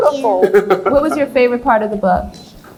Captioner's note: laughs